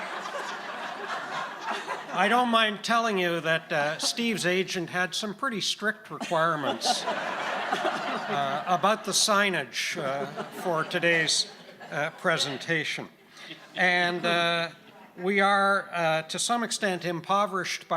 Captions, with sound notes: I don't mind telling you that Steve's agent had some pretty strict requirements (audience laughing) about the signage for today's presentation. And we are to some extent impoverished